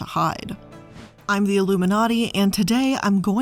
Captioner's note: air whooshing